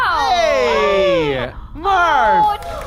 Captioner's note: audience applauds